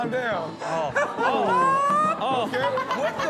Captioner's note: laughter